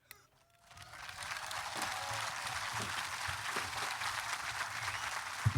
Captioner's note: applause